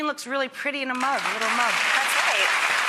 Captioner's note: audience applauds